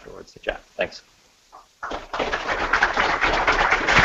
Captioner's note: applause